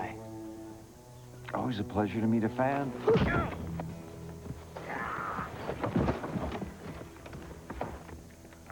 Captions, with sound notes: ALWAYS A PLEASURE TO MEET A FAN. ( grunting )